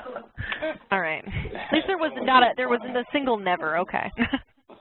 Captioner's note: laughs